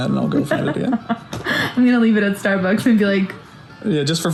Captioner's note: laughs